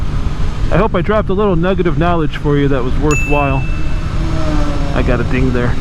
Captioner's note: ding